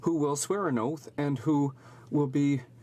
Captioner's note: speaking in French